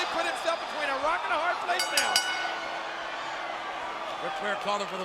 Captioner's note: bell rings